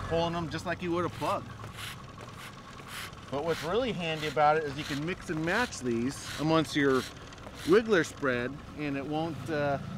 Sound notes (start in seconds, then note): 1.6 reel spinning